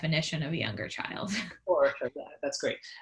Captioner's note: chuckles